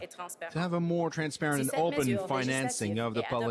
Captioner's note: speaking french